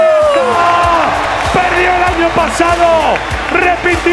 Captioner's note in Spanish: Gritos